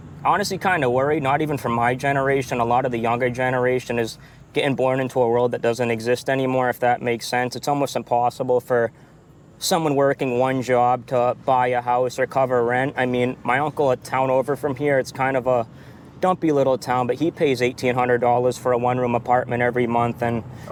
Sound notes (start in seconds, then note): none